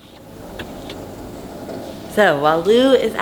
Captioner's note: gravel crunches